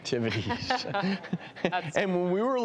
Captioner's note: laughing